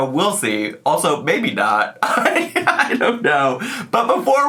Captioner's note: laughs